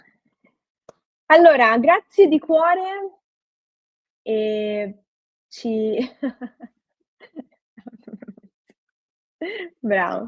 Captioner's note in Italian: risate